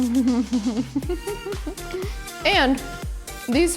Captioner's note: giggling